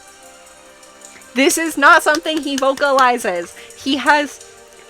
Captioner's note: gasp